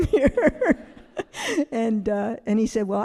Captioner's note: all laughing